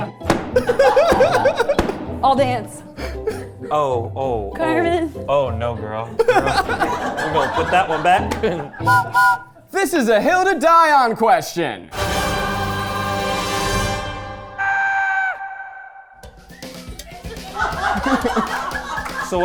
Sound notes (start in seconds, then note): 0.2 lever banging; 8.8 train whistle blowing; 11.9 dramatic music; 14.6 person screaming; 16.2 upbeat music; 17.0 crew laughing